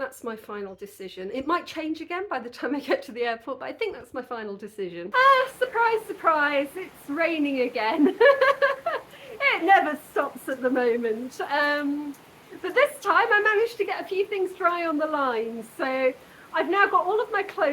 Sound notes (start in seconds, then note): 8.4 laughing